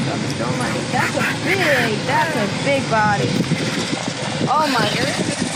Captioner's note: aggressive bird noises